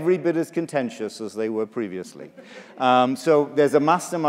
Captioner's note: laughter